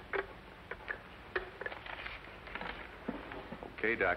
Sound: sound of phone being hung up

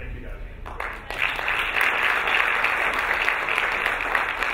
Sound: applauding

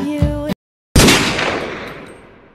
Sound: Desert Eagle firing

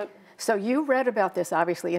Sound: none

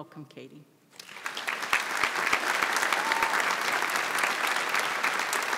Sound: audience applauds

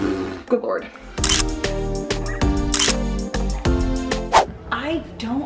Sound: exhales; camera snaps

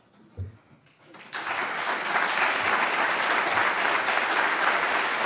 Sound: applause

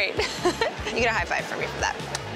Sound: laughs

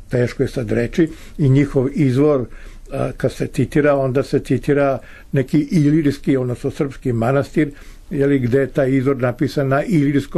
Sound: Serbian

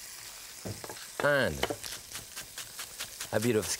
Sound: knife chopping

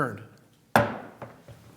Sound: gavel

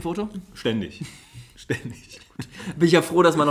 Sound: laughs

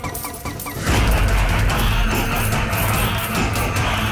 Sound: coins clinking; eerie music continues

